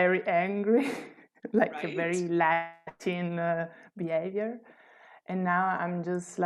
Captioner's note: laughter